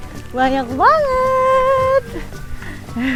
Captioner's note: laugh